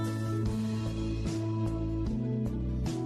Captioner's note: none